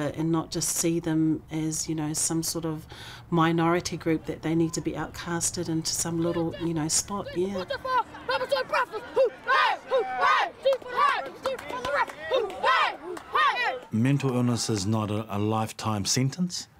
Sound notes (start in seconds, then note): 8.3 rugby players shouting